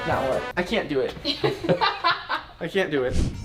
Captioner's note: laughing